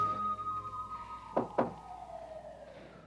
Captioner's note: knock on door